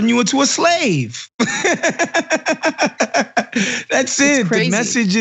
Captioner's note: laugh